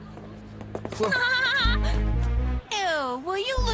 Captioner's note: mandy laughing